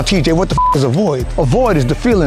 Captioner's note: beep